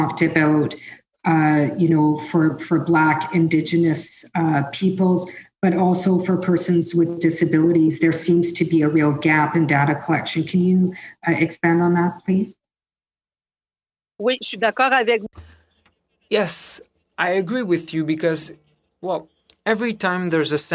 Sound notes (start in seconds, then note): 18.2 speaking French